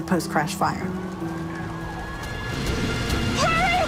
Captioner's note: sirens wailing